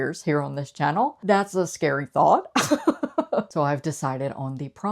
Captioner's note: laughs